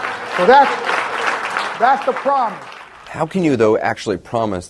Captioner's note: clapping from crowd